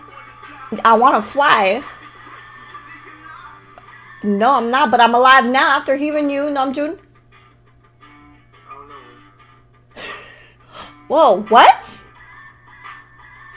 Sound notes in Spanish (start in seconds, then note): 10.0 risa leve